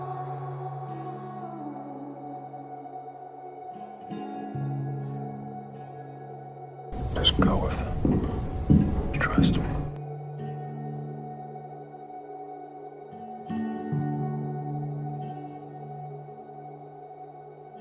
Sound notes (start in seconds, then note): 7.2 whispering; 9.4 whispering